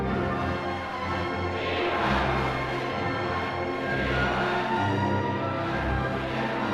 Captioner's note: crowds chanting